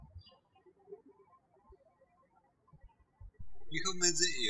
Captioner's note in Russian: птички щебечут